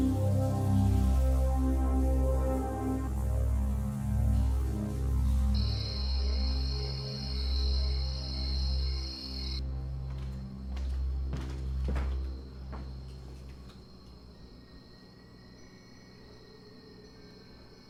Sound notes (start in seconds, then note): 5.8 insects chirping; 14.7 suspenseful music